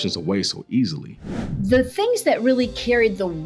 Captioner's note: graphic whooshing